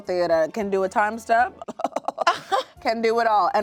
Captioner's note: chuckles; laughs